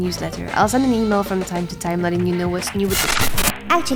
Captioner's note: ominous glitch